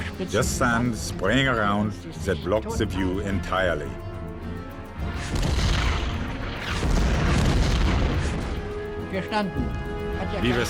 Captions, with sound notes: Just sand spraying around that blocks the view entirely. (shells exploding) (speaking in foreign language)